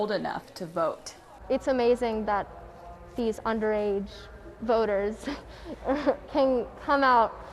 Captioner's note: laughs